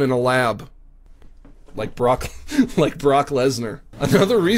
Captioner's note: laughs